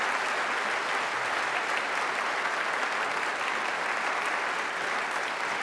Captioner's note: applause